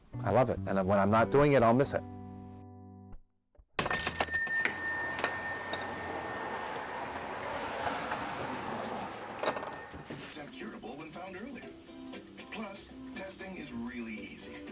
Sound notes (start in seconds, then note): 3.8 bell chimes; 10.4 radio playing in background